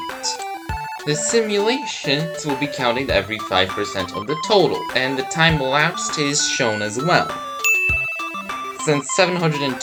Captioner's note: ding